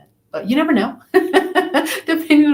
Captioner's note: laughs